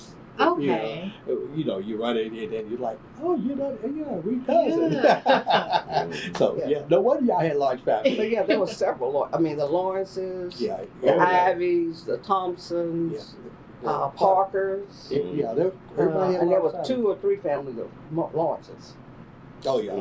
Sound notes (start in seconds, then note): 7.8 laughter